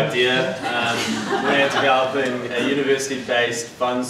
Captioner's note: laughter